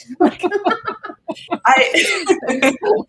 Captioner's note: laughter